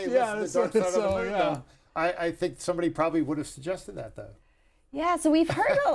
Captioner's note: laughter